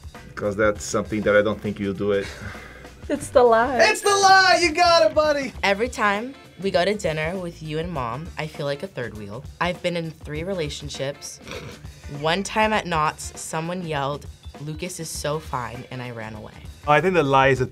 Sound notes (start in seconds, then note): 11.4 snickers